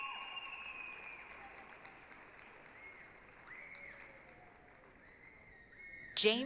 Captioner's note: applause, cheering